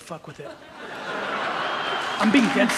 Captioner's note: audience laughs and applauds